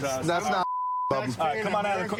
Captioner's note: chatter